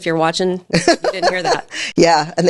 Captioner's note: laughs